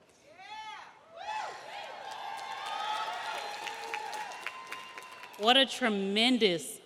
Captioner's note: audience cheering; audience applauding